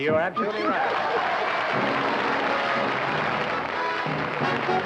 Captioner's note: applause